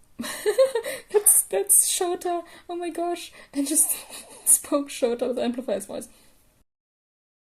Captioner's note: laughter; snicker